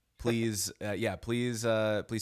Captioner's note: none